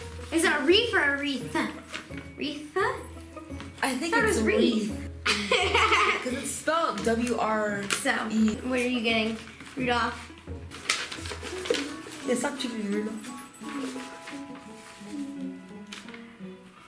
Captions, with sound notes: Is it a reef or a wreath? Wreath? - I think it's reef. - I thought it was wreath. (laughing). - 'Cause it's spelled W-R-E-- - So What are you getting, Rudolph? (paper rustling) - It's up to you, Rudolph.